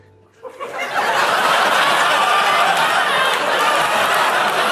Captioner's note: audience laughs